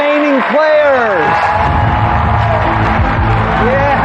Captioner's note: cheering and applause